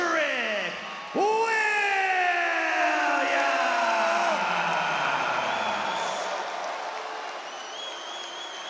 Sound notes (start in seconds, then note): 5.5 crowd cheer